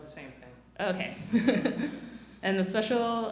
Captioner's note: laughs